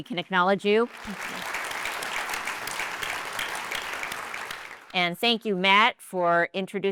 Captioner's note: applause